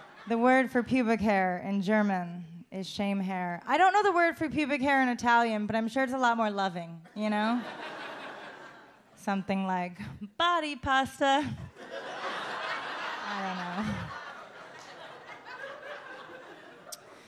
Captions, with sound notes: The word for pubic hair in German is shame hair. I don't know the word for pubic hair in Italian, but I'm sure it's a lot more loving, you know? Something like body pasta. (audience laughs) I dunno.